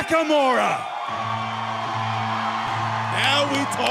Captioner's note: crowd cheering